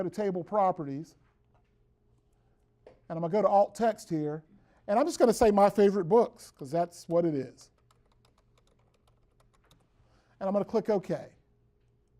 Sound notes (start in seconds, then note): 7.6 typing on keyboard